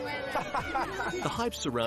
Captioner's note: William laughs